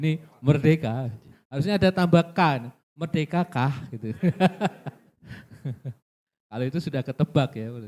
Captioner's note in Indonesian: tertawa